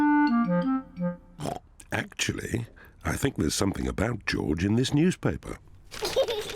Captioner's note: snorts; george giggling